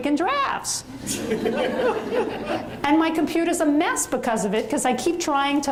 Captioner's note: audience laughs